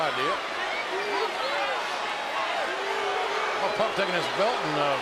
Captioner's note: crowd boos